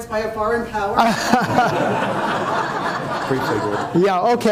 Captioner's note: audience laughing